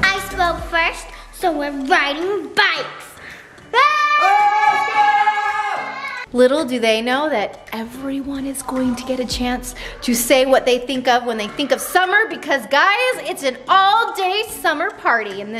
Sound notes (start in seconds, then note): 3.7 kids screaming